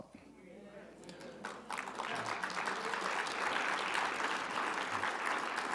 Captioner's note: audience applauding